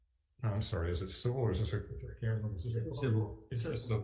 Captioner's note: faintly speaking